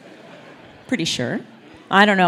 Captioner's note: laugh